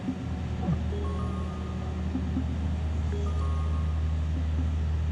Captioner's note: digital warble; ringtone continues